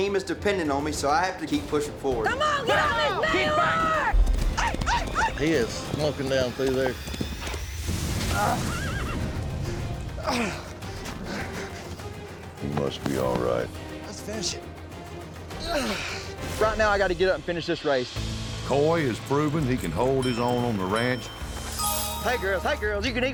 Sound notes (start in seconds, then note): 2.2 team shouting, encouraging; 5.2 yelling; 8.4 grunting, horse neighs; 10.2 grunting; 15.6 grunts; 20.2 points ding